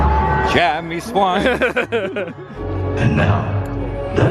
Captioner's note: laughs